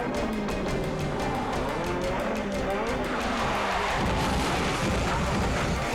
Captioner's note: car revving, screeching